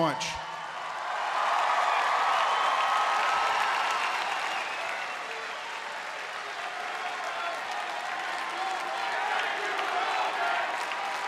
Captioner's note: applause